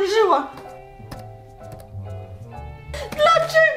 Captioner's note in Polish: dźwięk klikania